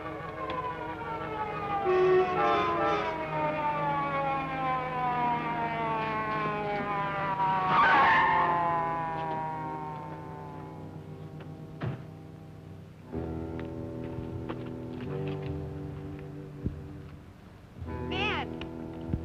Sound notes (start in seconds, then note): 0.2 siren wailing; 7.7 tires screeching; 13.2 foreboding music